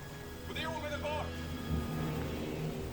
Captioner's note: speaking Swedish